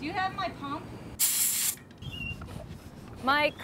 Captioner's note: hiss